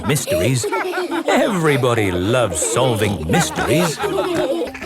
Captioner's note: laughter